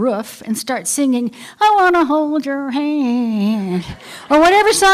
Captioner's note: laughter